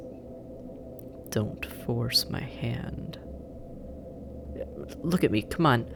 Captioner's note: quiet, threatening